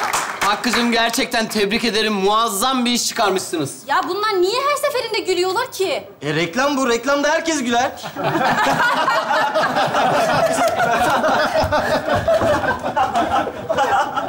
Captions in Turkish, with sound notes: Hakkı’cım gerçekten tebrik ederim. Muazzam bir iş çıkarmışsınız. Ya bunlar niye her seferinde gülüyorlar ki? Reklam bu. Reklamda herkes güler. (kahkahalar)